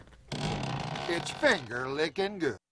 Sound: door squeaking

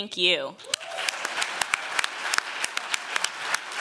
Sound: applause

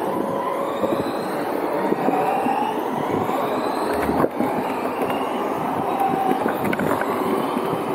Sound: whining sounds

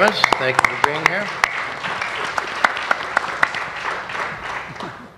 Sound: applause

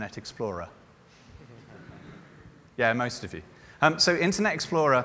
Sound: laughter

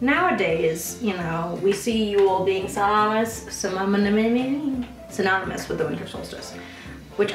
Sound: stammers

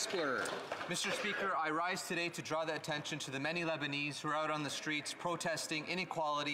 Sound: applause

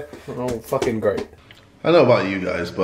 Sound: footsteps pattering

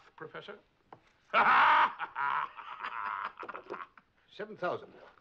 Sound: laughs

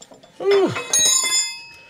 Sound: metal clanking

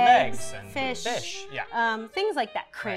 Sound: in Unison

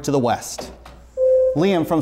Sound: buzzer sounds

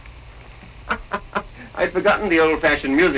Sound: laughing

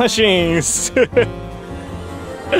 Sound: laughs

